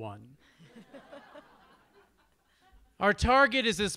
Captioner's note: audience laughs